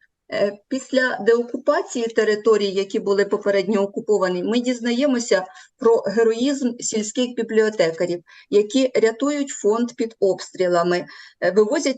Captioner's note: foreign Language